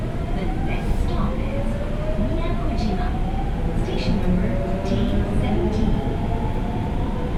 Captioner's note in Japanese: 車内自動放送